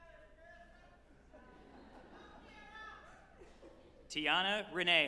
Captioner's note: group laughing